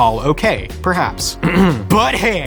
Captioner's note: clearing throat